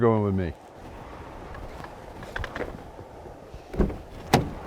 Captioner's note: wind humming